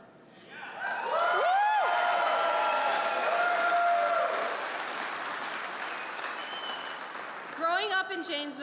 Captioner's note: applause